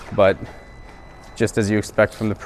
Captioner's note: beep